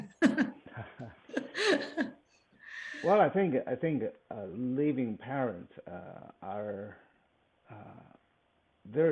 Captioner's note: laughs